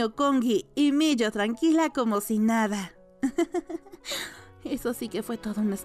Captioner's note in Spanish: riendo en voz baja